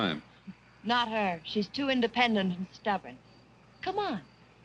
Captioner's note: chuckles